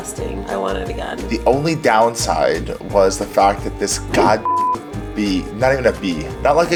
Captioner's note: beep